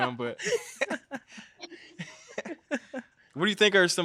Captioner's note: all chuckling